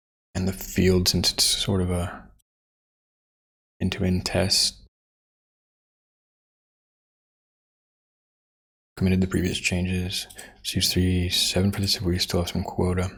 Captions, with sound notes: And the field since it's sort of a into in test. (Blank Audio) Committed the previous changes. Two, three, seven. We still have some quota.